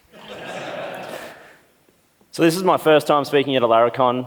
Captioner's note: laughs